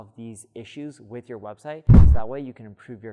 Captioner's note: air whooshing